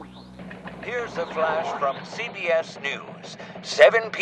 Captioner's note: radio static, tuning; teletype